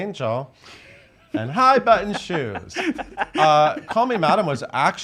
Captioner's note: laughs